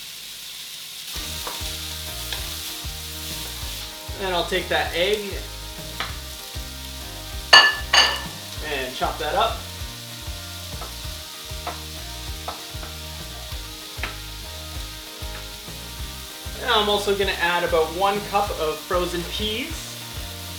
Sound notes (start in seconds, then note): 0.3 sizzling; 7.5 clicking of glassware; 12.4 slow chopping